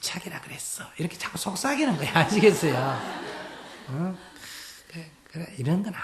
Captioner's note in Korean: 청중 웃음